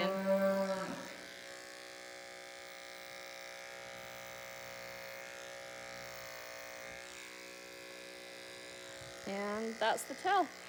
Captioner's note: buzzing noises